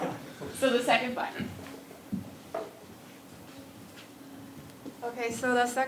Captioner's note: laugh